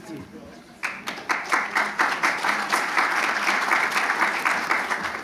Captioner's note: attendees applauding